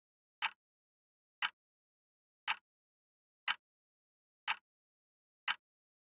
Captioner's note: tick